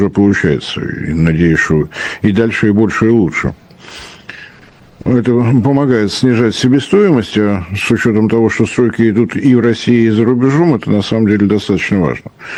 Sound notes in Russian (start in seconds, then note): none